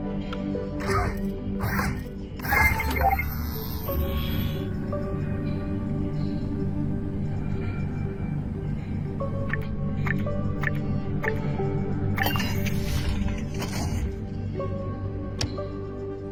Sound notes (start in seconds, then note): 0.2 machines beeping; 7.1 equipment rumbling; 12.9 interface chiming